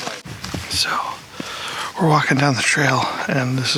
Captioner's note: whispers